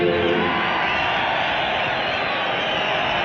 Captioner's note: cheering